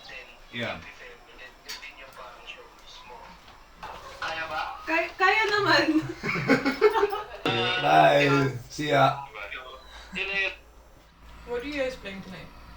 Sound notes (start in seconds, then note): 5.9 laughs